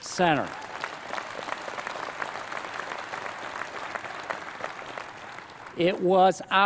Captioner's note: applause